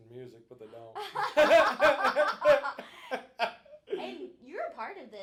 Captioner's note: both laughing